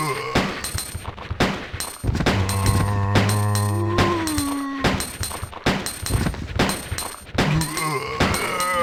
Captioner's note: gunshots